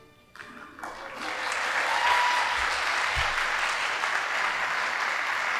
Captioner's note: audience applauding